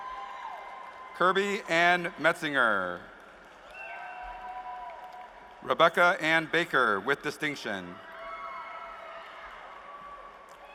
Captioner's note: cheers and applause